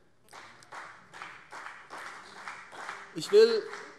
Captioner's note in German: Beifall CDU und BÜNDNIS 90/DIE GRÜNEN